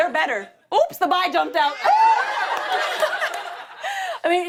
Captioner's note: laughter